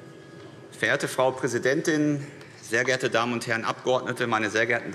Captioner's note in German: none